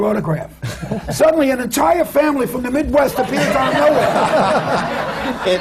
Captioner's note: laughter; laughs